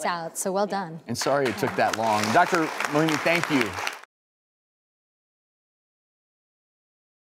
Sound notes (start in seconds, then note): 3.1 audience clapping